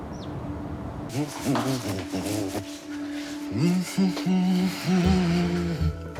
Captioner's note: hums